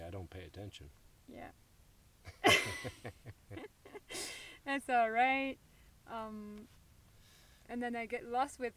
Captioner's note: laughs